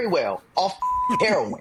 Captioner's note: beep